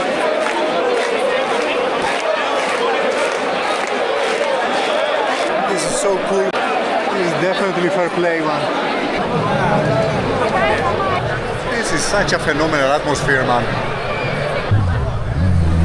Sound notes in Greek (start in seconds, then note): 8.9 θόρυβος του πλήθους